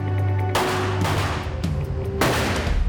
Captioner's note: gunshots